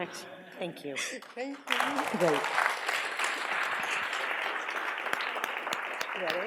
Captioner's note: audience applauds